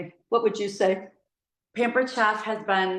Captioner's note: none